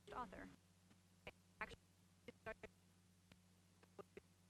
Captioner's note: stuttering audio